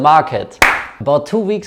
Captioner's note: clap